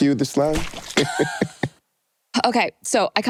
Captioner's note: chuckle